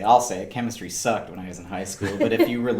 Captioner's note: laughing